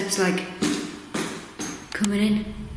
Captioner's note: banging feet